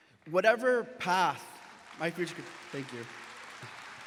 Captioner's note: audience applauds